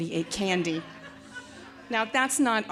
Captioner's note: audience laughing